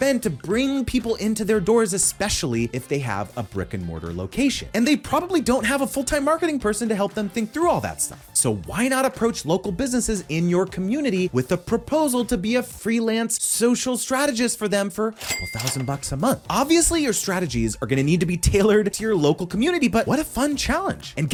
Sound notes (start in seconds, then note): 15.1 cash register clinks